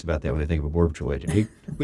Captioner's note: laughs